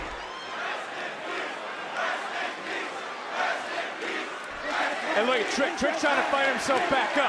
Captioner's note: crowd chants "rest in peace"